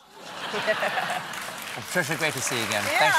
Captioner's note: laughter